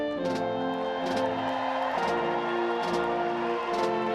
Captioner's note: all cheers